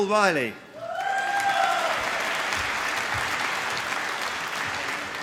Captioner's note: applause